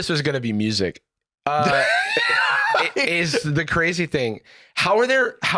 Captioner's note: wheeze-laughing